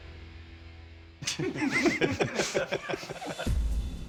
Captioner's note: laughter